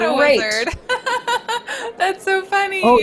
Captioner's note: laughs